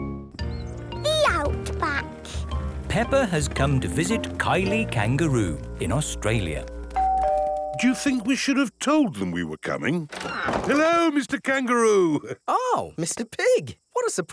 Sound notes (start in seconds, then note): 7.0 doorbell rings